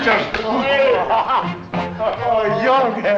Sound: chattering

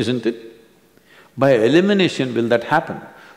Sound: none

